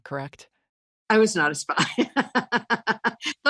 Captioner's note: chuckles